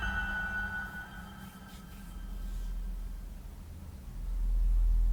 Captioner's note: scratching